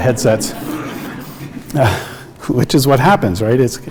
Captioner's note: audience laughs